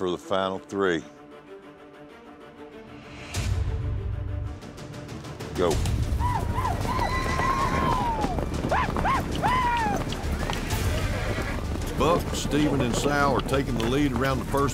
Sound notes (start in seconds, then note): 2.0 suspense music; 7.1 shouting